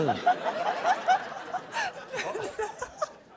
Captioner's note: laughter